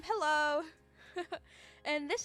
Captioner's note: giggles